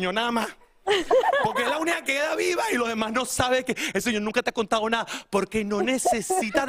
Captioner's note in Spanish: risas